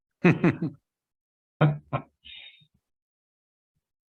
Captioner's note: laughing